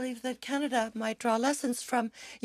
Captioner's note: speaking French